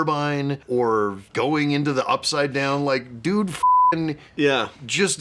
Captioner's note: beeping